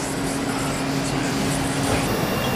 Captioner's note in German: Maschinenlärm